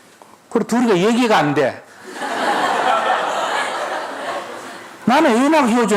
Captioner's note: audience Laugh